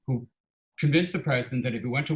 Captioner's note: none